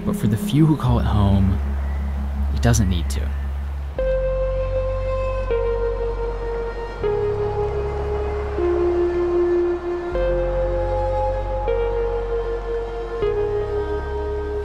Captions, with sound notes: But for the few who call it home, it doesn't need to. (calm dramatic music) (wind blowing)